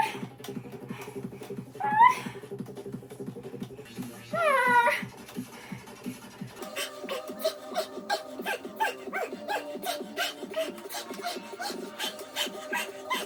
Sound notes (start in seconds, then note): 6.6 huff huff huff